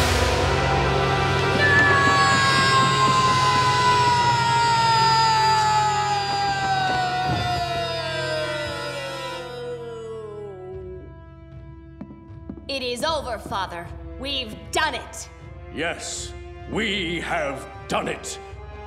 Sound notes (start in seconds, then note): 1.6 screaming